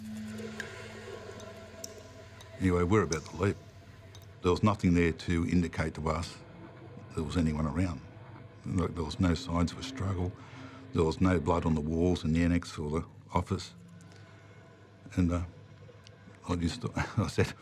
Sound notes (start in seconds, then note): 0.1 faucet dripping; 0.2 somber music